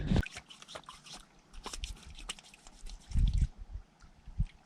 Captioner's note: water splashing